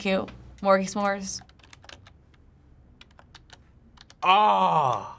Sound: typing

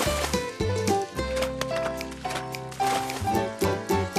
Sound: splash

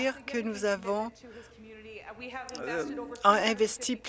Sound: some Applause

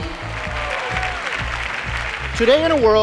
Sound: cheers and applause

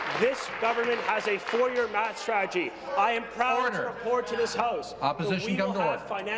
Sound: applause

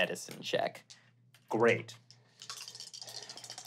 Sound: rolling dice

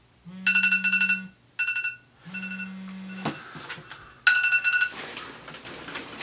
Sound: alarm beeps

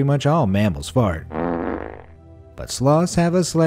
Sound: dog farting

